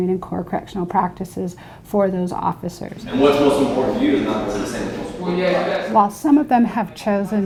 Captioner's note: classroom sounds